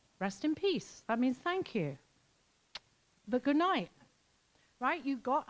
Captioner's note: smooches